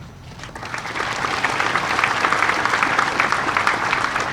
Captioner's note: audience applauding